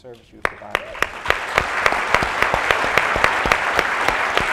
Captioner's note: applauding